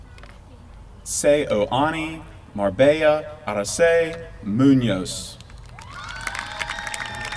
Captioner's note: applause